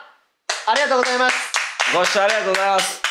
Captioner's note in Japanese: 拍手👏